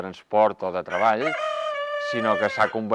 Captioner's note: cock crows